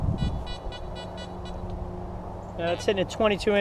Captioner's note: detector beeps